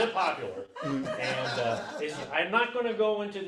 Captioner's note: audience laughs